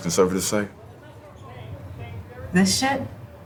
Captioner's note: people chattering